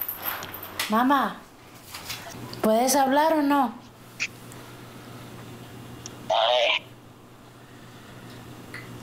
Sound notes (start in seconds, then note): 5.4 sound distorted, breaking up